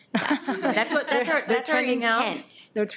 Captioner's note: trustees laugh